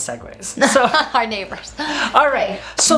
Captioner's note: laughs